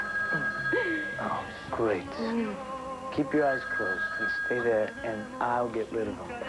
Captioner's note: telephone rings